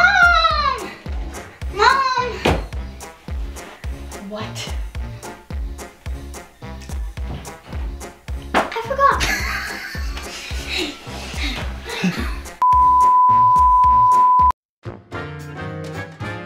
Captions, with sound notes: - What? - I forgot. (both laughing) (beep)